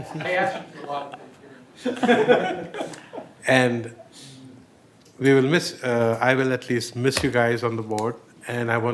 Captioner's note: laughter